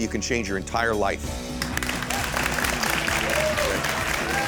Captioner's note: applause